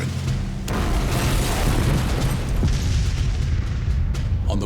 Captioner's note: bombs exploding